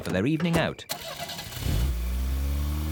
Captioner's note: car engine starts